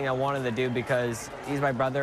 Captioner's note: cheering and applause